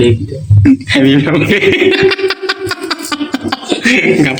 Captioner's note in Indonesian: tertawa